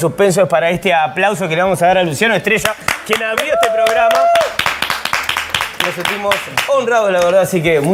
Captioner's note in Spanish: aplausos